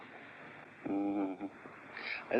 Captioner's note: Grandpa grumbles in disapproval